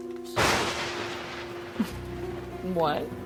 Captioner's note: thunder roars